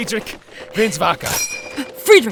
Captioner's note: Satisfying ASMR ping of a Garand reloading